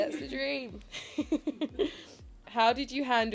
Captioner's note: chuckles